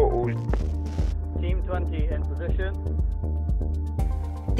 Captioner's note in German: Voiceover